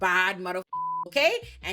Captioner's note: beep